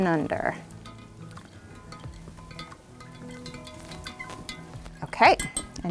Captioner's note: stick clattering; water whooshing